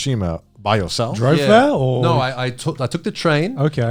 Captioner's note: all laughing